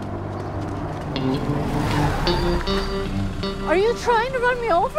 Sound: screetching tires

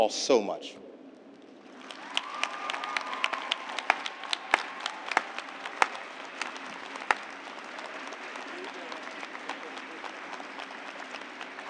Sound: cheers and applause

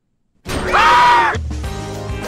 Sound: screaming!

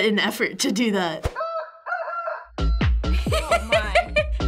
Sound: laughs; rooster crowing

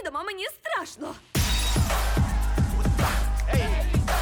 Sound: upbeat music plays; glass shatters; gasps

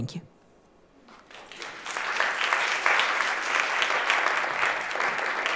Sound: applause

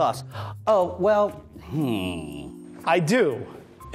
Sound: thoughtful groaning

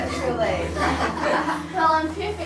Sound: group laugh

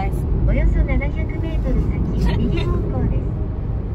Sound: sat nav speaks

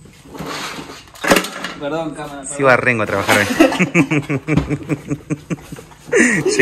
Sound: laughs

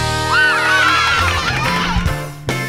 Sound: cheering

